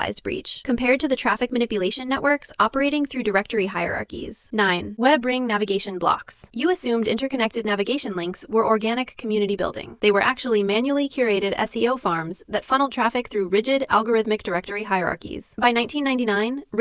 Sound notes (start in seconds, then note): 6.0 thoughtful